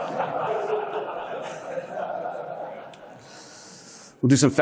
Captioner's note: audience laughing